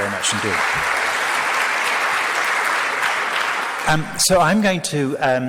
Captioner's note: crowd applauds